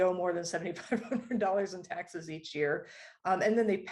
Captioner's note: laughter